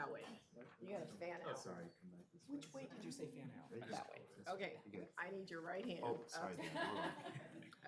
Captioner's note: laughing